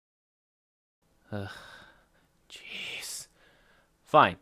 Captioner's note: brief silence; soft groan